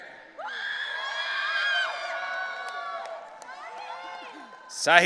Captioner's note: audience cheering